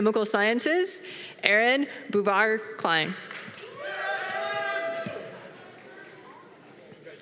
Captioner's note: audience applause